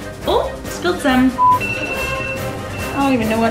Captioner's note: alarm ringing